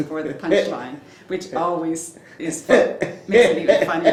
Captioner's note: laughs